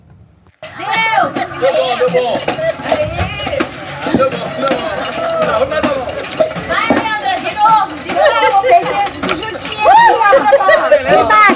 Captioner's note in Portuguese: vozerio animado